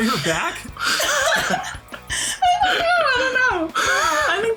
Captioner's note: laughs